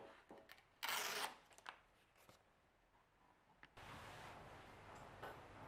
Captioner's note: paper tearing sound